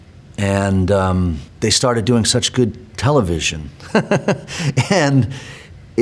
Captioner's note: laughs